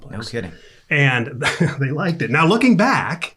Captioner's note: chuckling